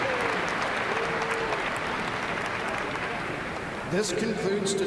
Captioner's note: applause